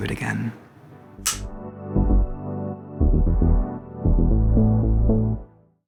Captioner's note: bright music; clapperboard clacks